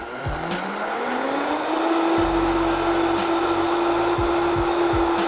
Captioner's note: whirring